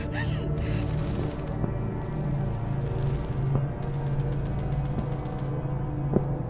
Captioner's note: ominous music; guns firing in distance